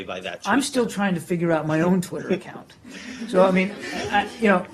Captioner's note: laughter